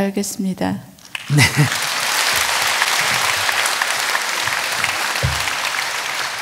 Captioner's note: audience applause